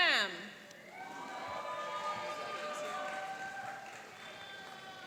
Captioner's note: cheering and applauding